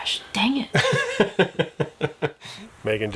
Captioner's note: laughing